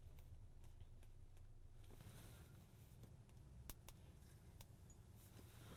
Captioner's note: Ana taps phone with long nails